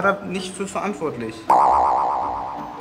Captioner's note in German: Hüpfender Ton